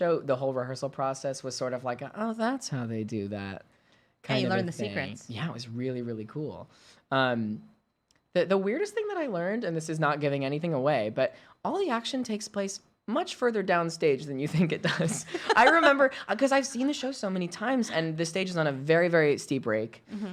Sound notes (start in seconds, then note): 15.0 laughing